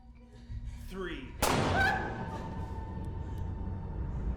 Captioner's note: gun fires; nurse yelps